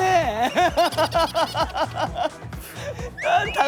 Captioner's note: laughing hard